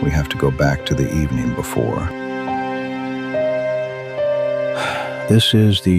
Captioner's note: exhales